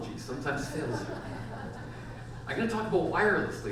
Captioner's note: audience laughs